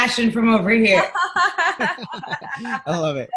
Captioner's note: laughing